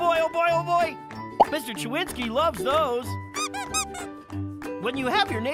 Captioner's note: Mr. Chewinsky squeaking